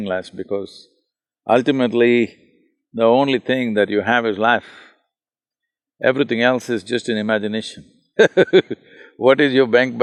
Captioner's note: laughs